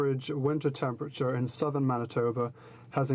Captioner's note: speaking French